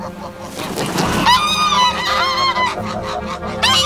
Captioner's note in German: Lautes Kreischen